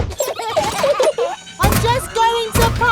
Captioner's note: children giggling